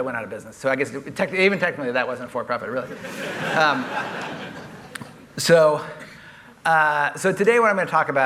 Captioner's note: laughter